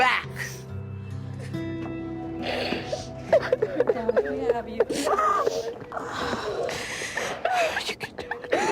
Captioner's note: crying and indistinct talking